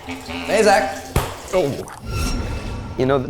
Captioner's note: hand slapping